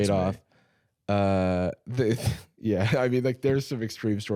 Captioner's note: laughs